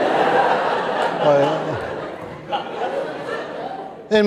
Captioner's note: laughter